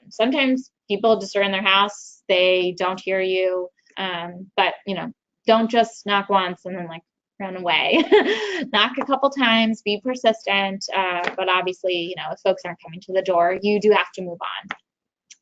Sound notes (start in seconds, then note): 7.9 chuckles